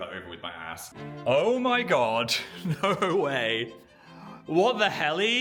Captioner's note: laughs